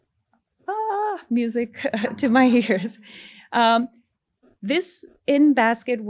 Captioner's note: all laugh